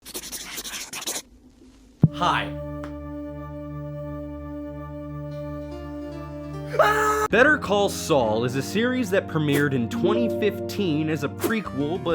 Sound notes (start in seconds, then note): 0.0 scribbling